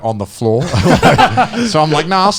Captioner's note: all laughing